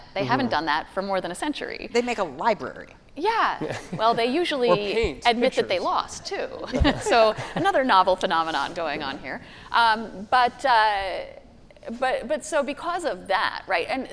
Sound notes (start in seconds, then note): 3.6 laughing; 6.6 panelists laughing